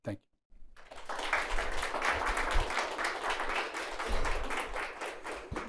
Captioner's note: audience applauding